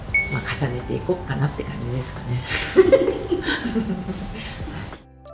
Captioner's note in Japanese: 笑い